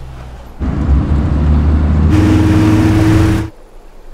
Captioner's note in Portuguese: car engine